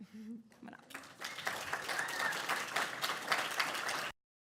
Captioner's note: audience applauds